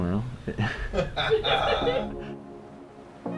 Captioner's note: laughter; mellow music